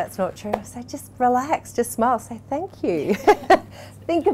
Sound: laughs

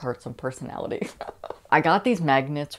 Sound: laughing

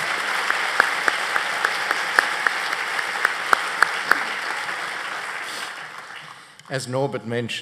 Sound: applause

